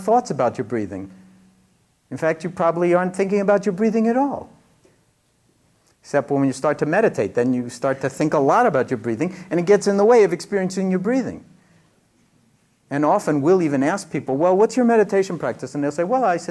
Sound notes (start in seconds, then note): none